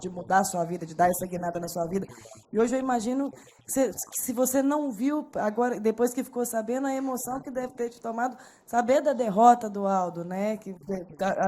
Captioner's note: speaking foreign language